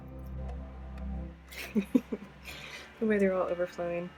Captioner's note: laughs